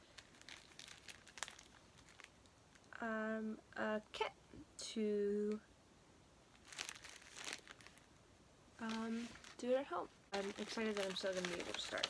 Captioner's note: rustling sounds continue